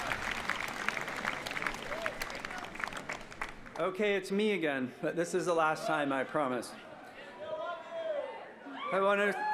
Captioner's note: applause